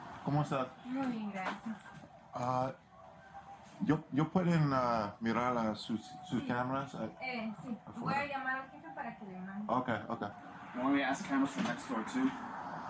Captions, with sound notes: No English Ah (Officer speaking Spanish) (Speaking Spanish) Okay, okay You want me to ask cameras from next door too?